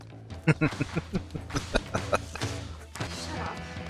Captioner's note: chuckling